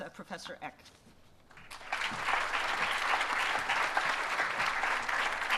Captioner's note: applause